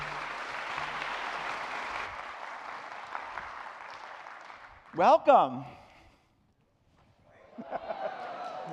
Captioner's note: cheering; clapping